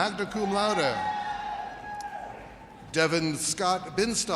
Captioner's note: audience cheers